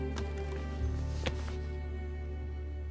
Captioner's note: laptop closes